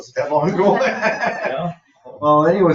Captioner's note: people laugh